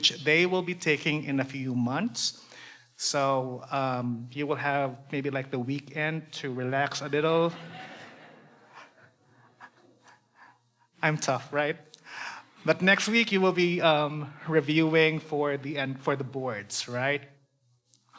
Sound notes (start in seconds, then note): 7.3 audience laughs